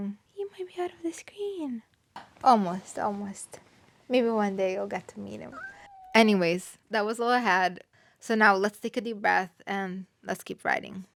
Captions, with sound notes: He might be out of the screen. Almost, almost. Maybe one day, you'll get to meet him. (cat meows) Anyways, that was all I had. So now let's take a deep breath, and let's keep writing.